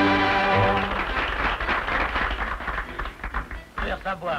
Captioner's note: applause